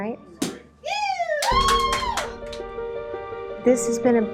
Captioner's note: champagne cork popping